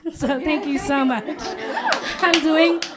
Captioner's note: applause